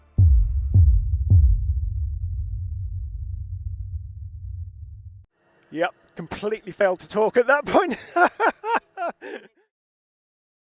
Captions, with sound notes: (drum beating) Yep, completely failed to talk at that point. (laughs)